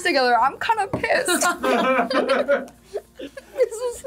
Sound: group laughs

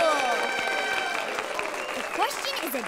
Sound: cheering and clapping

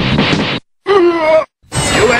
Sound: Blanka groans in defeat

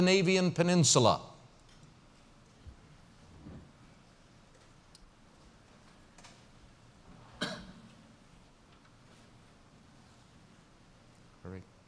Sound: pause

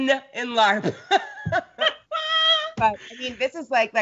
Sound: both laugh

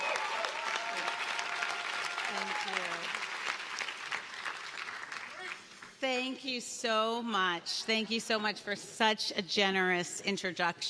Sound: cheers and applause

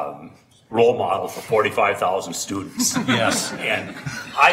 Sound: laughing

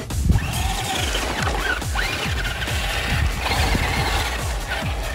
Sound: tires scraping

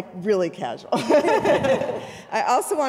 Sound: women laughing

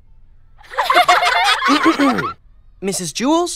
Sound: laughing; clears throat

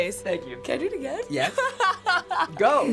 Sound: laughs

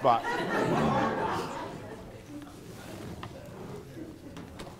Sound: attendees laughing

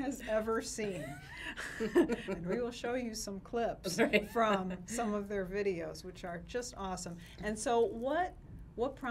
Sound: laughs

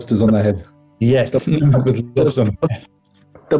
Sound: laughing

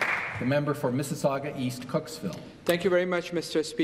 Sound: applause

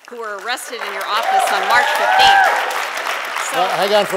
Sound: applause

